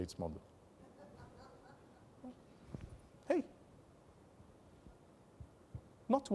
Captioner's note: laugh